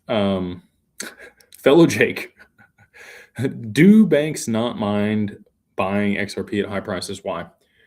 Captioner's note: laughter